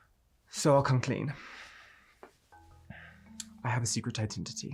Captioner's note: sighs